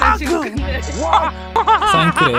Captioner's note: laughs in Mouse